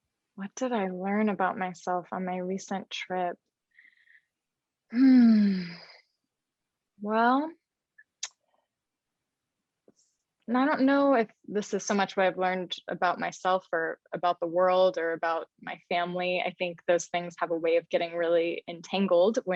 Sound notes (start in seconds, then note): 4.9 sighs